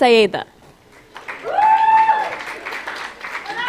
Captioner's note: applause